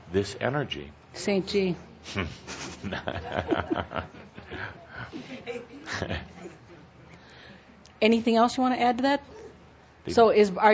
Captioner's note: chuckles